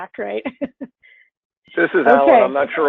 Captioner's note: laughs